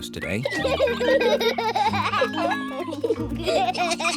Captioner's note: both giggle